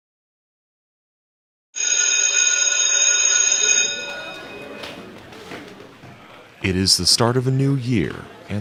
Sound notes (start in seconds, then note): 1.4 students chattering; 1.8 bell rings